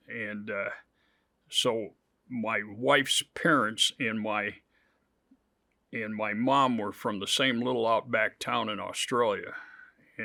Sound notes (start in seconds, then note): none